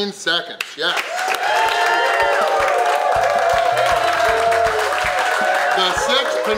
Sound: cheering & Clapping

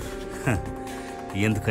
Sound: chuckles

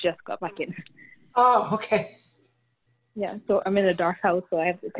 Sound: laughter

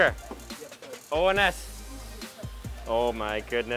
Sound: speaking in foreign language

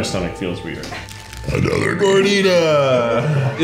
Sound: burping

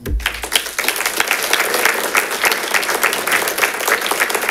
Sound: congregation claps

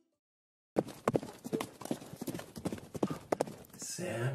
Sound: the sound of reindeer hooves on the roof

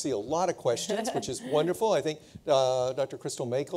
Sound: laughing

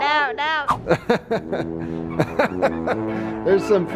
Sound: laughs

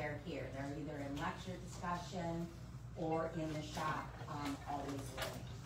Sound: none

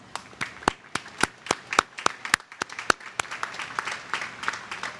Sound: applause

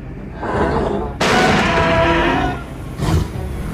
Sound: crash sounds

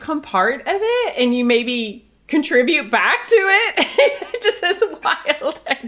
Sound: laughs

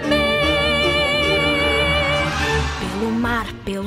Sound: crowd cheering

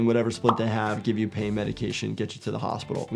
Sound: graphic pops

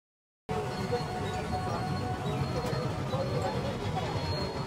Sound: people chattering

